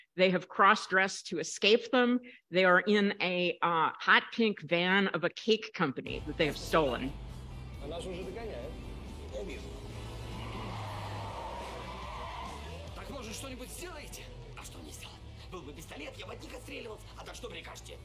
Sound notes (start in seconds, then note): 7.5 rock music; 8.2 characters conversing in Ukrainian; 9.4 tires screeching; 13.4 characters conversing in Ukrainian